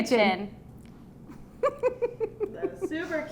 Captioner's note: giggles